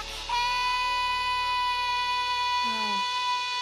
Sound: singer screaming

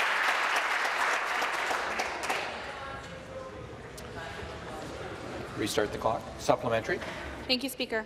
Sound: applause

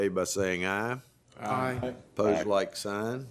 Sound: chorus of ayes

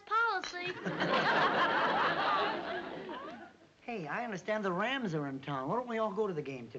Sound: laughs

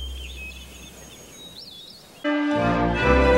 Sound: birds tweeting

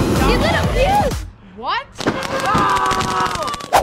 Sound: engine roars; screams

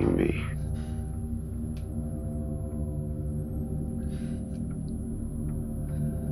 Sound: ominous rumbling; shaky breathing

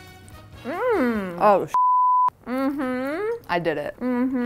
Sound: beeps

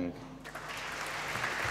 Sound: applause

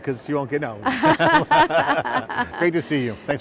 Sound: both laughing

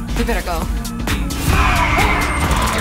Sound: shriek

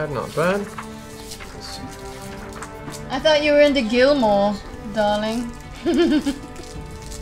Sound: laughs

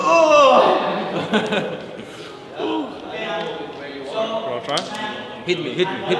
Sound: grunts; indistinct chatter

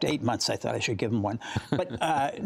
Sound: laughter

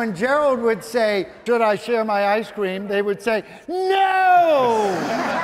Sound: audience laughing

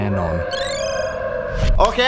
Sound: howling

